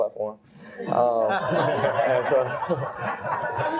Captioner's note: all laugh